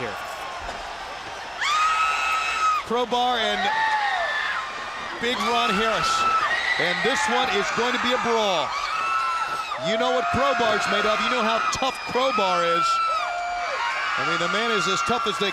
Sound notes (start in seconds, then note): 2.0 crowd cheering